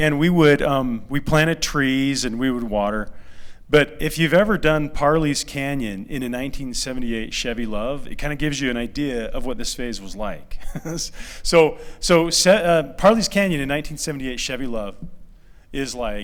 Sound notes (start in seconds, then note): 10.6 laughter